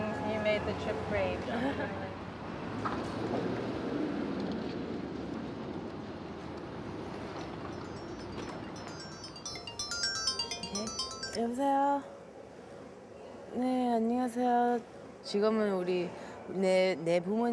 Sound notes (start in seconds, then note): 7.6 chimes chiming; 11.6 speaking Korean